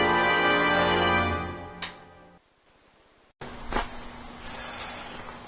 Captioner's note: bed creaks